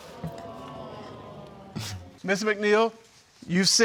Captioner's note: audience exclaiming